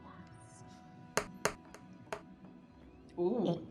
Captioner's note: dice rolling